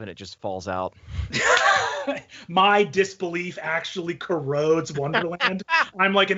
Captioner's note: laughs